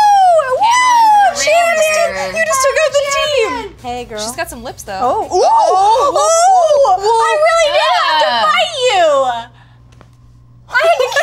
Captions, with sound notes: - Champions! You just took out the team. - Hey girl. - She's got some lips though. (cheers) - I really did have to fight you!